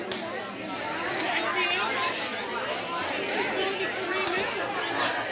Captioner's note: participants conversing